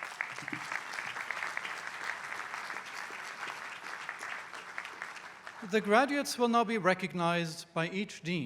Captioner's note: applause